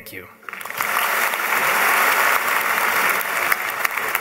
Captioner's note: applause